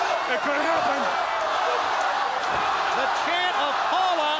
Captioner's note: crowd cheering